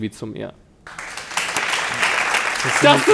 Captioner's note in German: Applaus